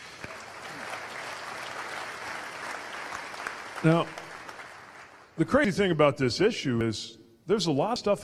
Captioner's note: applause